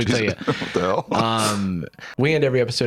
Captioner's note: laughing